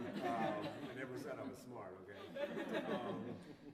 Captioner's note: laughter